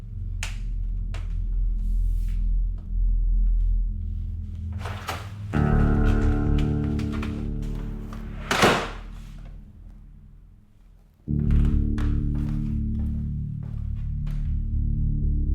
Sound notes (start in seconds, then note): 0.1 floor creaking; 4.8 door clicking; 8.2 door thudding